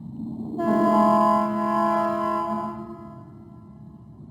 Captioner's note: ship horn honks